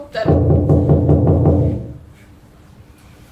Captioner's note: knocking sound